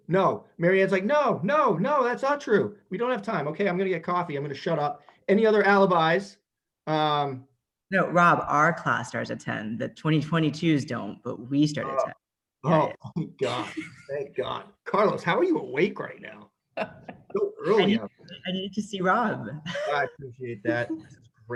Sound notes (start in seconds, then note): 16.7 laughs